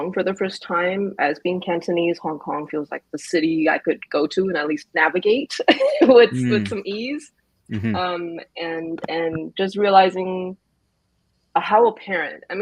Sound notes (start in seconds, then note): 5.8 laughs